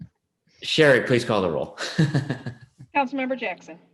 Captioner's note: laughing